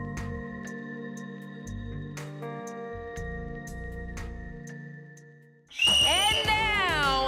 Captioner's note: cheers and applause